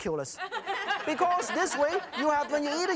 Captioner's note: audience laughs